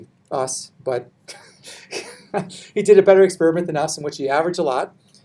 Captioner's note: chuckles